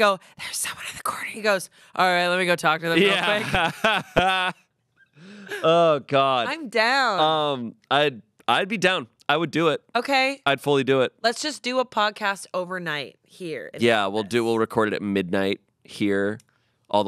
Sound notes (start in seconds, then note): 2.9 laughs